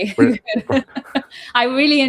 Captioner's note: laughs